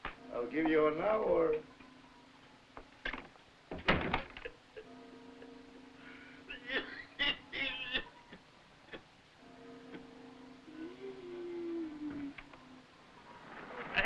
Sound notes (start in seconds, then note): 4.7 laughing; 6.4 coughing; 11.0 wheezing